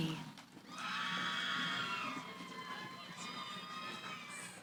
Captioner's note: cheering